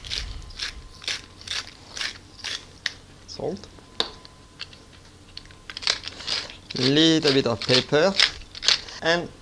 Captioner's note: grinding sounds